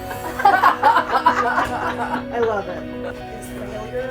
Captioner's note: laughing